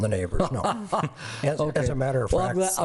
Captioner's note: laughs